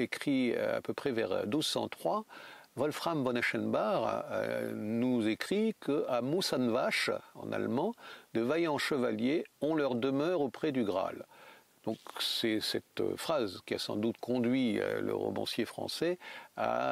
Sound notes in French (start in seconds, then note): 6.7 en allemand